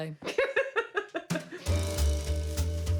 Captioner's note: laughter